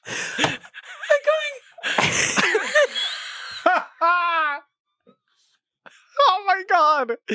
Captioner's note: laughs; everyone laughs